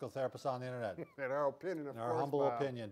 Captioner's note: laughs